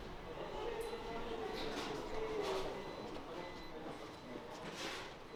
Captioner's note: people murmuring